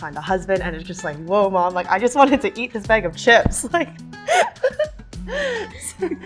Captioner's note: laughter